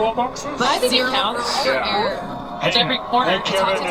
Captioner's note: commentators and employees chattering indistinctly